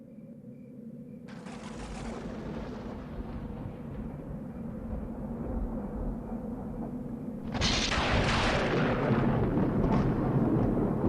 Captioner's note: thunder